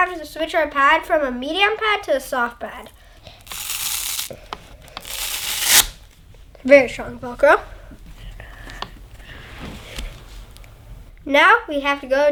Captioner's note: velcro sound